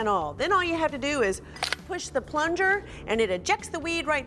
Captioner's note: clanks